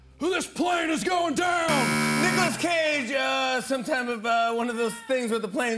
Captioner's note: buzzer